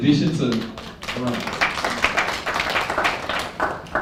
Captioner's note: applause